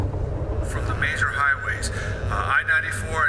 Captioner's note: radio Announcer